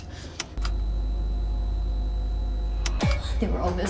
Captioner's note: button clicks; screen buzzing